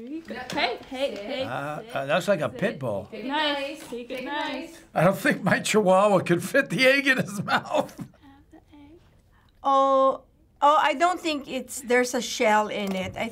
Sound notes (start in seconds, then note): 6.8 chuckles